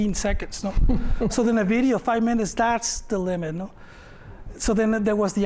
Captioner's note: laughter